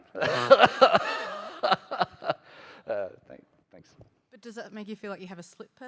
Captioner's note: laughter